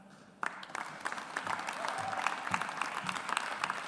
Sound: audience applauds

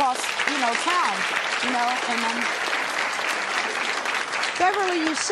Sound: audience applauding

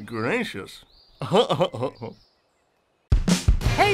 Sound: laugh

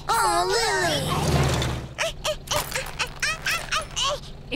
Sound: grunting

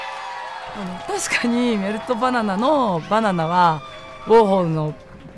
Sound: speaking foreign language

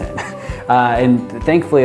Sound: chuckles

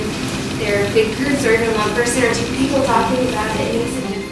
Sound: talking among themselves

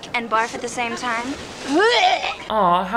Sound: girls fake retch

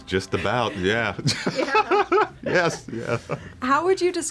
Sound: laughs

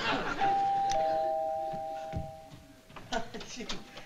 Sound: doorbell rings

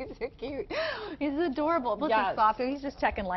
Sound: laughter

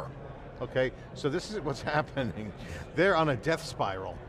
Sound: chuckling

